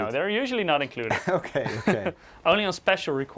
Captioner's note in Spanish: risas